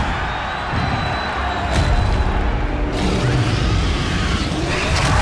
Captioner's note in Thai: เสียงปรบมือ